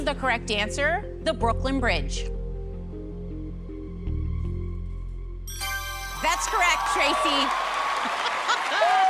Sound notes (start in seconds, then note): 5.5 ding